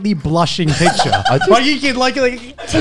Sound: laughs

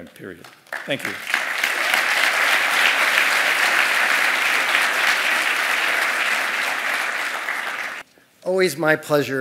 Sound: applause

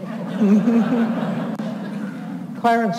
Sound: audience laughs

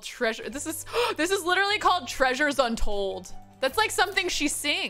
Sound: gasps

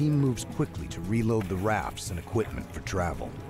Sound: voiceover

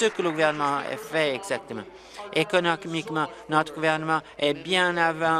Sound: applause

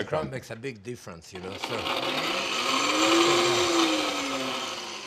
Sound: whirring

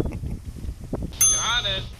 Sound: chuckles; ding

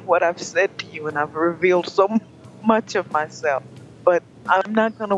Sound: laughs

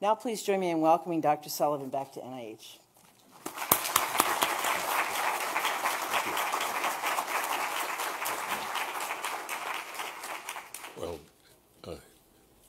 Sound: applause

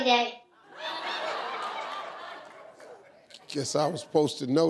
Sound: audience laughing

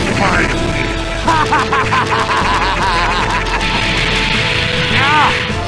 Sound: mischievously Evil Laughter

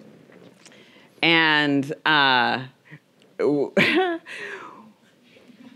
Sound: chuckles

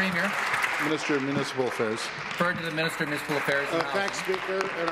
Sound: applause

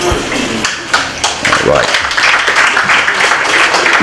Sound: applause

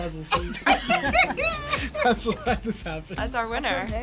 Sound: both laugh

